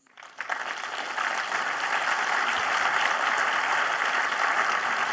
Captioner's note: applause